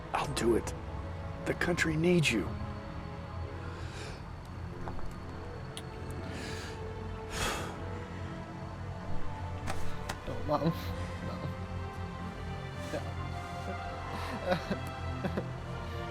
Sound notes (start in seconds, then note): 7.4 sigh; 11.9 crying